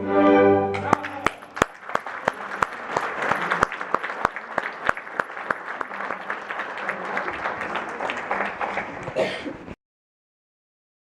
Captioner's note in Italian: applauso